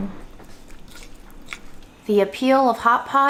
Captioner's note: spoon scraping